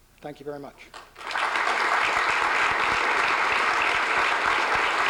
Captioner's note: applause